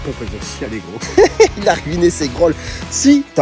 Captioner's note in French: rire